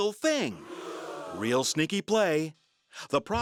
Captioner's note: crowd gasps